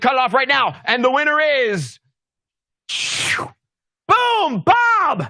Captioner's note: slurping whoosh